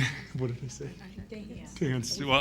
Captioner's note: giggling